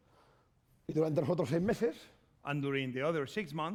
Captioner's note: speaking spanish